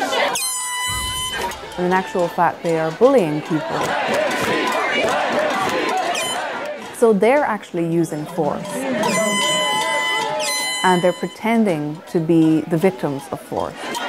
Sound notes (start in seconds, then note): 2.5 crowd yelling; 8.4 airhorns; 12.2 crowd yelling, clapping, blowing airhorns